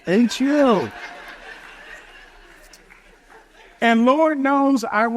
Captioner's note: audience chuckles